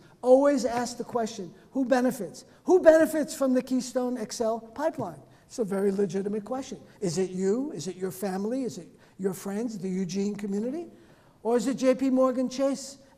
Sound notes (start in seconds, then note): none